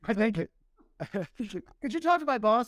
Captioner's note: laughter